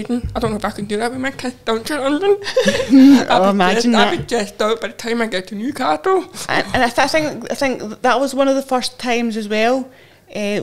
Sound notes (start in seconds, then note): 2.3 laughs; 2.4 chuckles